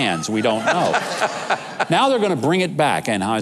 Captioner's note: laughing